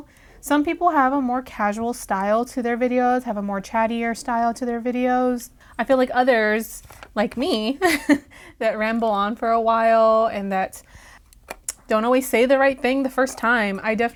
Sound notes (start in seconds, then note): 7.8 laugh